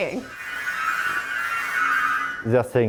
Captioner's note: robots trilling